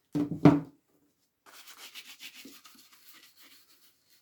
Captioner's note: brush scrubbing